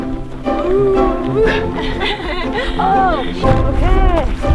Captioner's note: laughing